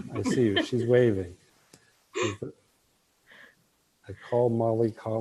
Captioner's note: laughter